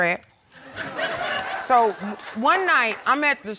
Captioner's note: audience laughing